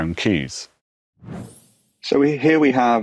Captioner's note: graphics whooshing